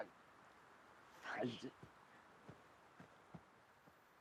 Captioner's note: insects chirping